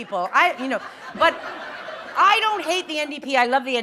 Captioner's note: laughter